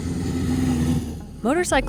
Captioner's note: engine noise